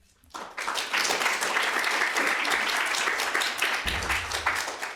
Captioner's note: audience clapping